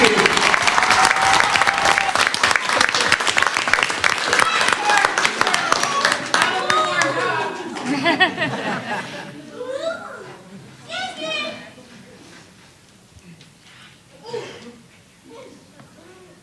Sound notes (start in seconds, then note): 0.0 applause; 7.8 laughter